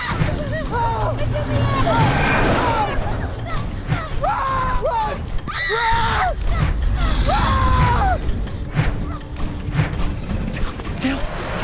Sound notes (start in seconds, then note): 7.8 swooshing